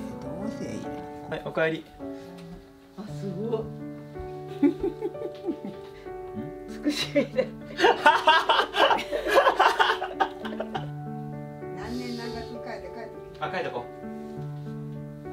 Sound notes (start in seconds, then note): 7.7 laughs